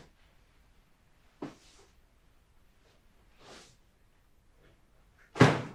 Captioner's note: clothes shuffling